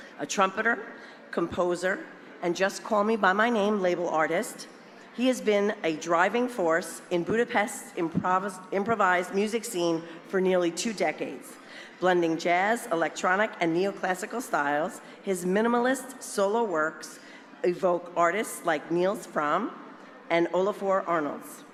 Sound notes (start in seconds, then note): none